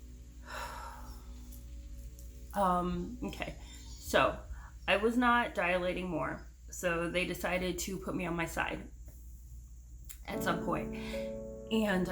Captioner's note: deep breath; deep breath